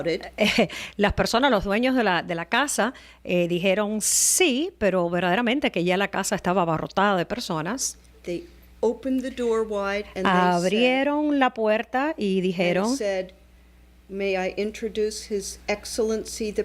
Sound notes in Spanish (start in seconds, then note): 6.2 Hablando ingl\s